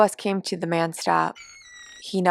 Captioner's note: bus door squeak